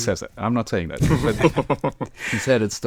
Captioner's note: all laughing